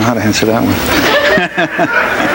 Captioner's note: audience laughs